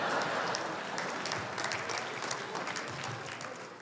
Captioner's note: laughter; applause